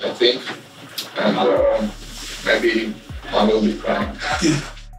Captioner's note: laughs